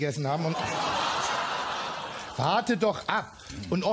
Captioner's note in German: Lachen im Publikum